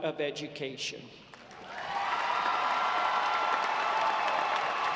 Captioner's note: audience applauding